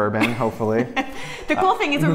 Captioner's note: laughs